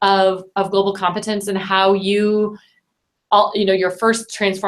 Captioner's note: stammers